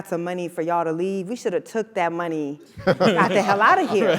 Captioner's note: laugh